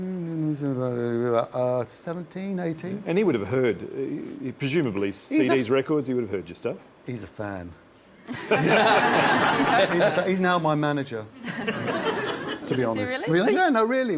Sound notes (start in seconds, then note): 8.3 laughs